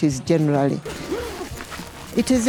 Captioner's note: zipper opening